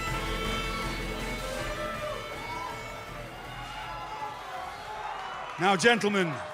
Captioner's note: crowd cheering